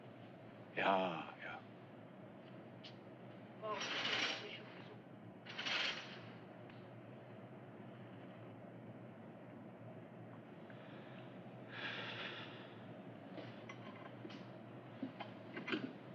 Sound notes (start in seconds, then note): 11.7 exhales